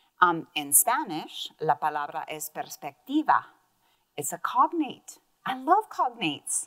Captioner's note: speaks in Spanish